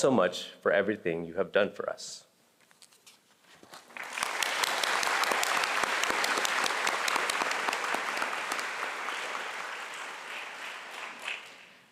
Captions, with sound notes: so much for everything you have done for us. (audience applauding)